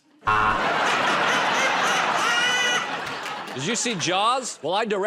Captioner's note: buzzer